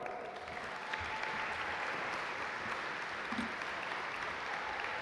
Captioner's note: audience applaud